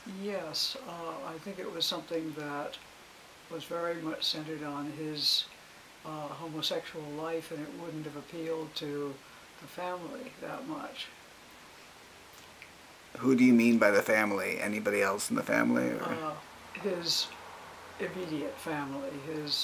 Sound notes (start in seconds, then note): 13.4 voiceover